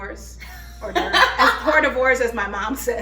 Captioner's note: laughs